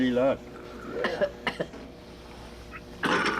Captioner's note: woman Coughs; coughing